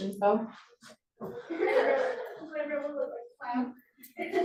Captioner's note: laughter